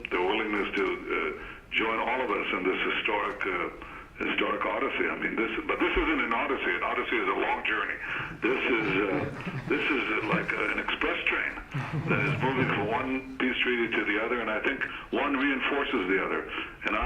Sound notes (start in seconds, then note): 8.1 laughter